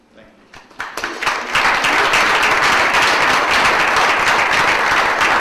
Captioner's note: audience applauds